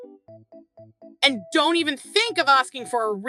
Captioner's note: Chantal angrily